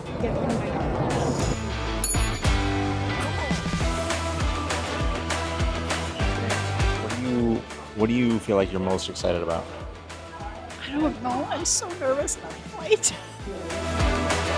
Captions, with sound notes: Get rid of my nerves. (DING sound effect) (Music and airport ambience continue) ...Japan. What do you, what do you feel like you're most excited about? I don't know, I'm so nervous about flight.